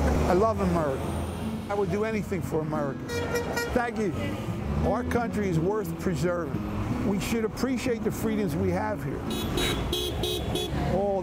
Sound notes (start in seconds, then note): 3.0 car honks; 9.2 car honks